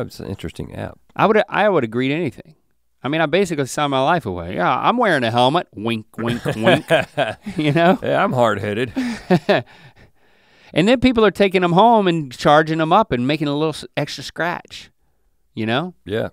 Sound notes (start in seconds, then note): 8.8 chuckles